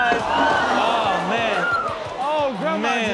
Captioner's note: audience gasps